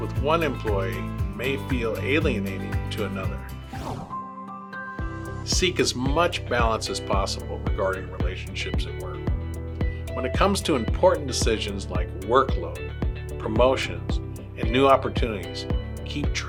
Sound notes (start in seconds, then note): 3.6 screen whooshes; 4.6 gentle upbeat music